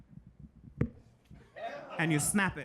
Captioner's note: audience laughing